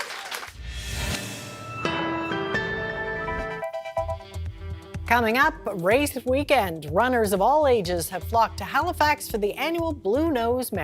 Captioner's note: applause